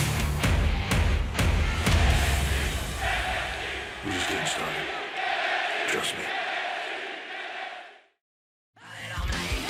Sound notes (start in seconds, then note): 1.8 fans chanting